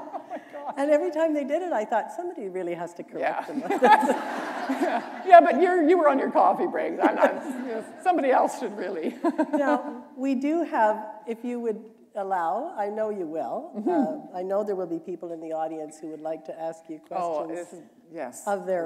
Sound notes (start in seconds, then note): 3.5 laughter; 7.1 laughter; 10.3 chuckle